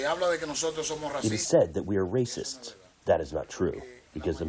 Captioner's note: through translator